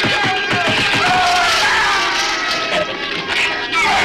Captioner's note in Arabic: صراخ الغراب; زئير الزبابة